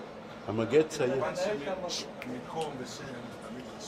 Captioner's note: talking in background